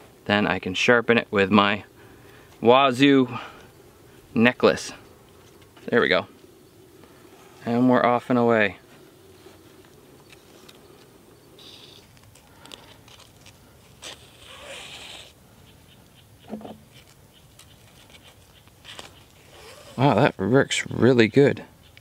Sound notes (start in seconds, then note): none